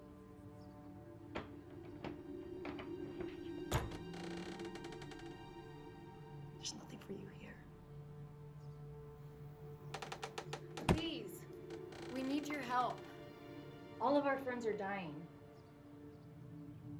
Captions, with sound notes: (door clacking) - There's nothing for you here. - Please, we need your help. All of our friends are dying.